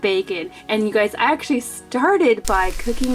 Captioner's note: bacon sizzles